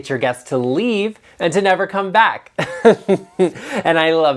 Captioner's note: chuckles